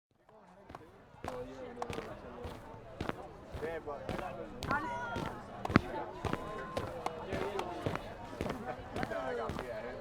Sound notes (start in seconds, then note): 0.0 city crowd fx, walking fx